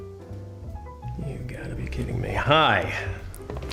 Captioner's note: muttering